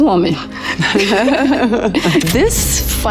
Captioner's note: Charlize laughing